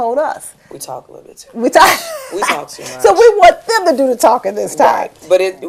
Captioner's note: laughter